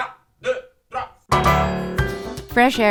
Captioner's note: speaking French